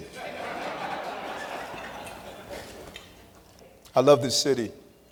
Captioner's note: laughter